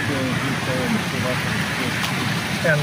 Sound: fish splashing

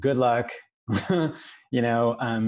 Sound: chuckles

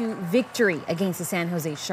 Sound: cheers and applause

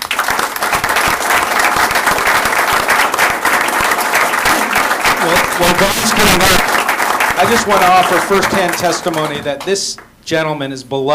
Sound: applause

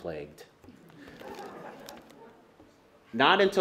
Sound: laughter

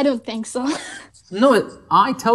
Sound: laughs

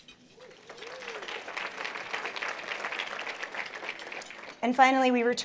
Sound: applause

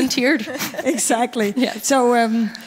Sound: laughing

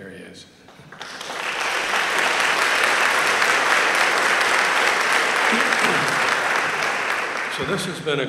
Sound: applause

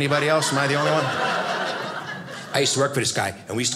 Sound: audience laughing

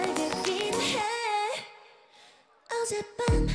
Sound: silent

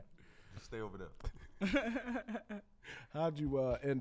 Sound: laughs

